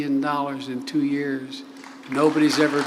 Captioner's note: applause